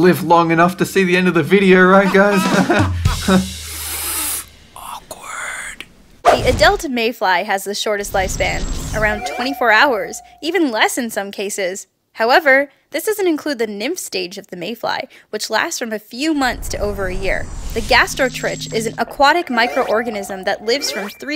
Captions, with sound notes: live long enough to see the end of the video though, right guys haha? • *breathe in through teeth* awkward…. • Hey – why didn’t you mention me, Dolan? I’m human too. • Psshh… haha yeah right… human… good one Grgak. • * • The adult Mayfly has the shortest lifespan - around 24 hours, even less in some cases. However, this doesn’t include the Nymph stage of the Mayfly, which lasts from a few months to over year. The Gastrotrich is an aquatic microorganism that lives from three